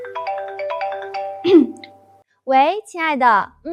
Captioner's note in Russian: кашляет